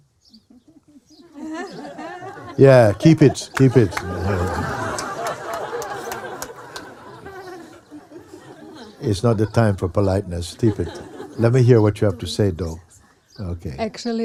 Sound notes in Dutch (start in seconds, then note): 4.8 gelach; 5.4 applaus en gelach